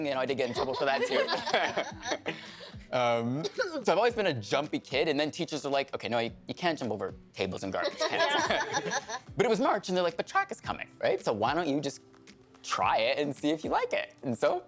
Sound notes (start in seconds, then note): 0.5 all laughing; 3.4 coughing; 7.9 all laughing